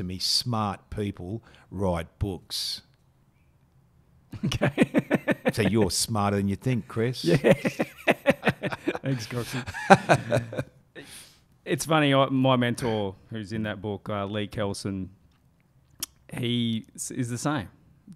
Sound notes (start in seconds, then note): 4.3 chuckling; 7.2 chuckling; 9.8 laughs